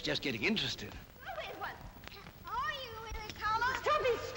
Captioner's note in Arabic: الأطفال يصرخون ويستهزئون